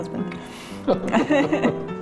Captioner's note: laughing